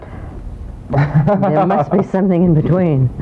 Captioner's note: laughter